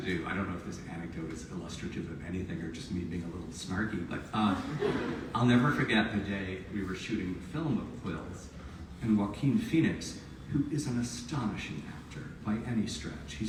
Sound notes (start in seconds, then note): 4.5 audience laughs